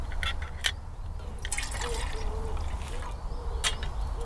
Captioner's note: slosh